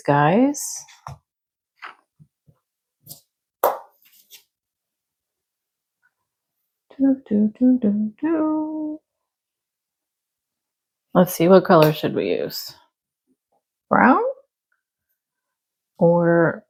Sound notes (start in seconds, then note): 7.0 humming